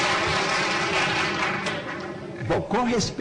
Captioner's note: applause